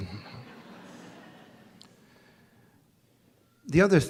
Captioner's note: audience laughs